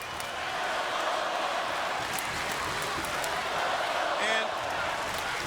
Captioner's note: crowd chants "Let's go Wolfpac"